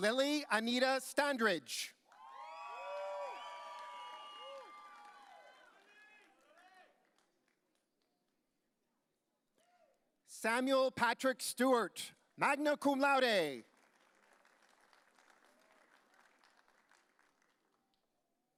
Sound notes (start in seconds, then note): 2.1 audience cheering; 13.7 audience applauding